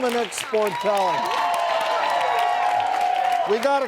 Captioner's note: audience clapping